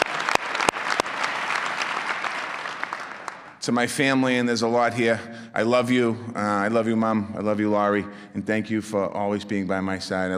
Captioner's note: applause